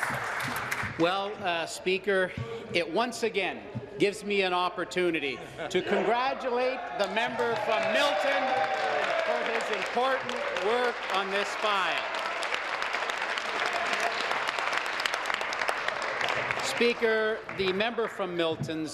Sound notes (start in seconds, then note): 12.9 applause